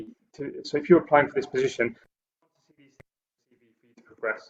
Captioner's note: audio blurs